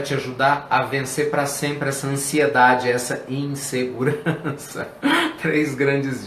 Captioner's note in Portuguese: risos